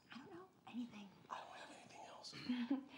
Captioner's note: whispers